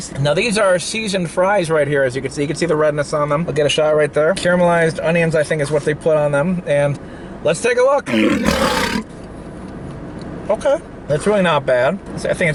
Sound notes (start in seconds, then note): 8.0 growling